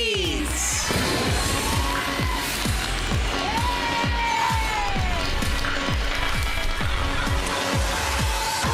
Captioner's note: upbeat music playing; cheering, applause